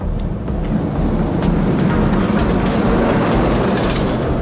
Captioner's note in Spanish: Pasa un coche ruidoso